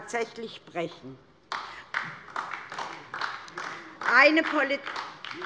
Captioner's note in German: Beifall DIE LINKE